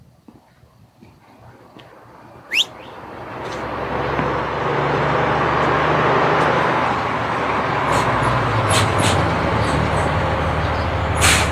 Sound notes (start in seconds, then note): 2.4 lips whistling; 2.8 motor rumbling